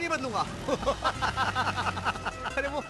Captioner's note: laughing